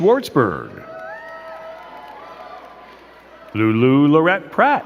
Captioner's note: crowd cheering and clapping